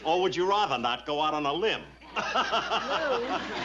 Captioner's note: laughs